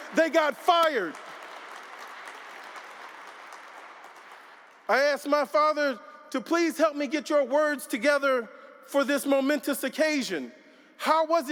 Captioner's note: applause